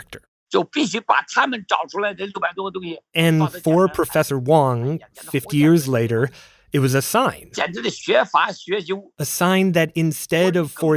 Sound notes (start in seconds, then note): 1.4 speaking Mandarin; 8.1 speaking Mandarin